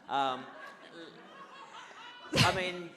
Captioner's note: audience laughs